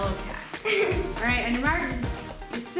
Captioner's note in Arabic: يضحك